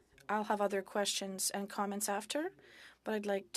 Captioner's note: speaking French